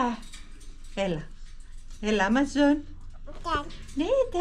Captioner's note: speaking Cypriot